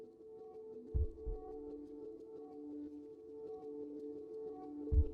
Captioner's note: soft music; heartbeat